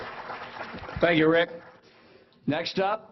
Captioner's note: applause